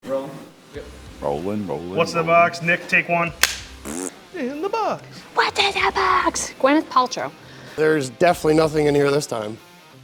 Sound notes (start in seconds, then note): 3.8 fart noise